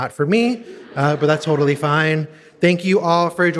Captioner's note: audience laughing